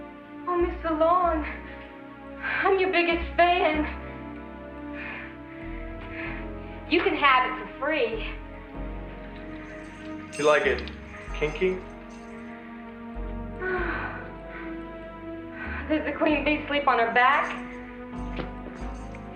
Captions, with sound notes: Oh, Mr, Long, I'm your biggest fan. You can have it for free. - You like it kinky? - (sighing) Does the Queen Bee sleep on her back?